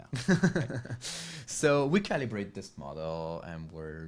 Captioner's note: laughs